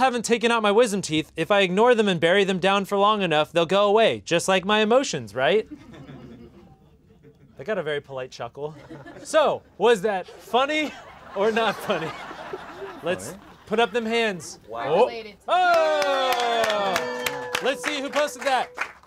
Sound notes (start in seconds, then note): 5.6 laughter; 10.2 laughter in the background; 15.6 clapping